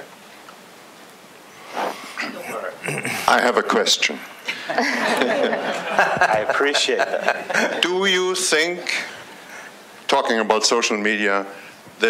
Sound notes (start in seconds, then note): 4.4 laughter